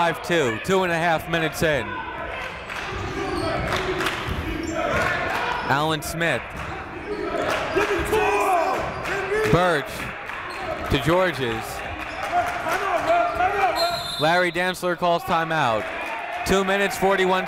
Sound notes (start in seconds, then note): 3.7 clapping; 13.7 whistle blowing